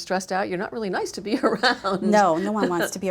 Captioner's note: laughs